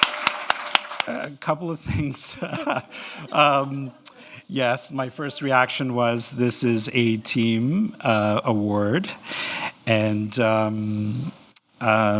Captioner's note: laughing